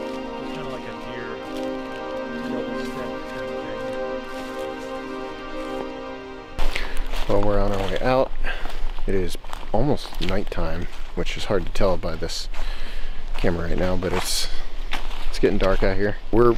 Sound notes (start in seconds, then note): 3.6 leaves crunching; 3.6 tranquil music continues